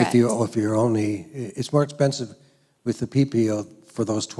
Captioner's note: voiceover